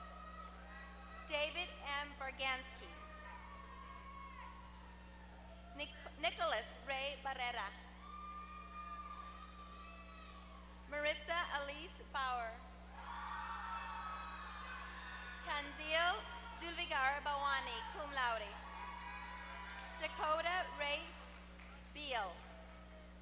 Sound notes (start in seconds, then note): 13.0 applause; 18.5 applause